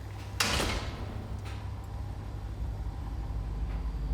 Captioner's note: hinges squeaking; gate closes